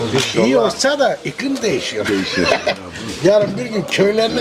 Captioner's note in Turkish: kahkaha